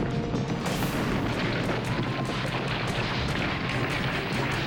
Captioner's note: dramatic music; tower crashing